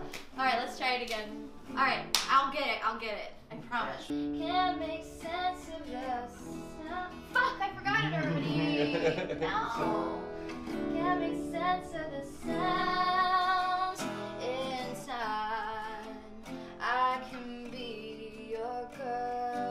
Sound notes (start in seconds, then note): 7.7 laughs